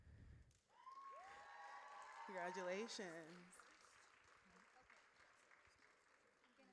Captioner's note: audience cheers